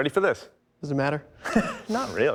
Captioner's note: laughs